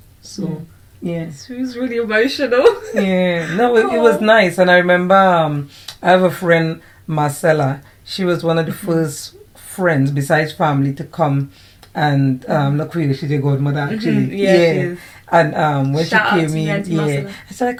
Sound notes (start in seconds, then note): 2.5 laughs